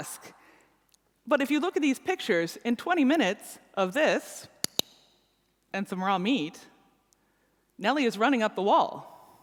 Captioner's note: clicks